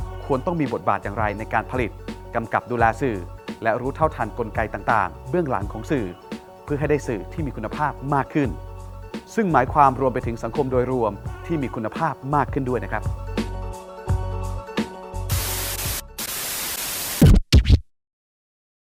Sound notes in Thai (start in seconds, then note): 16.1 เสียงเอฟเฟ็กต์; 16.2 เสียงโทรทัศน์